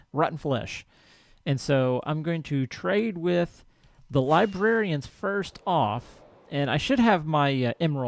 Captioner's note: whoosh